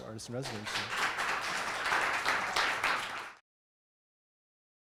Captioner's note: audience clapping